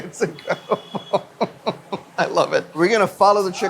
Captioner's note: laughs